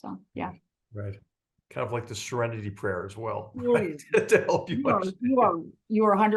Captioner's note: laugh